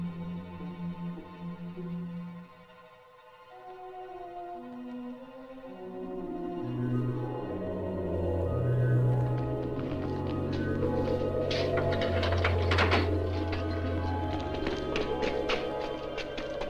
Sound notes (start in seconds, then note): 9.4 door Opens; 13.7 running Footsteps